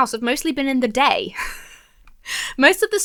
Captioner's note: laughs